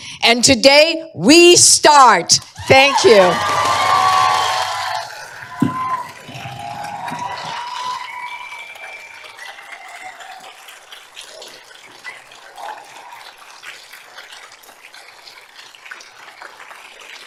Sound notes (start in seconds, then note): 2.4 applause